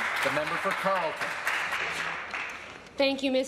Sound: applause

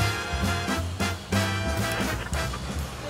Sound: radio static

